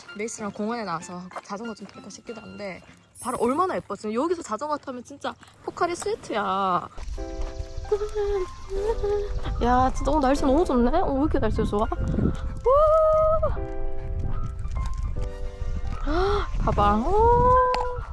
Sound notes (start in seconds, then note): 12.6 humming along because the weather's just that great~